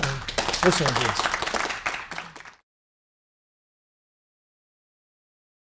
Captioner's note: applause